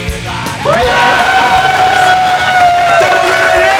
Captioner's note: cheers and applause